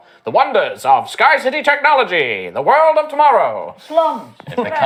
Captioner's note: vintage radio voice